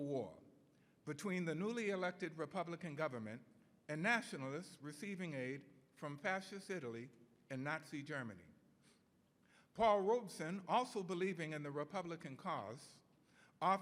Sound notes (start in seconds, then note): none